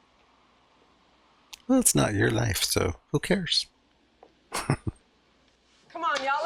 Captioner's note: chuckling